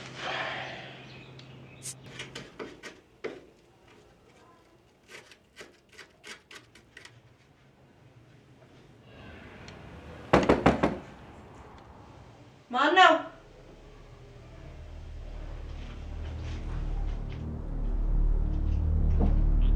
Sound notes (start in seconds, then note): 10.3 knock On Door; 16.2 suspense Background Music